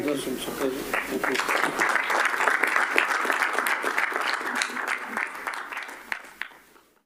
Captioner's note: applause